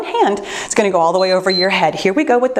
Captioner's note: timer beeps